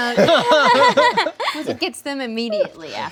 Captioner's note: laughing